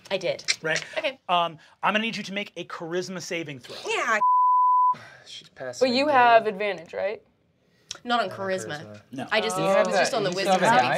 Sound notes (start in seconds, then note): 4.2 beep